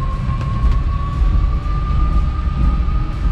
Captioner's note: car whirs